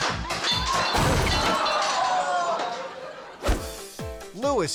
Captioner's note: table clattering